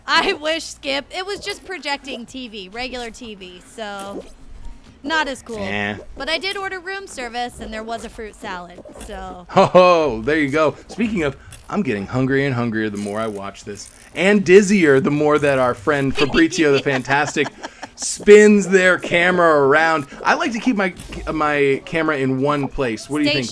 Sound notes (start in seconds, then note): 5.5 making buzzer sound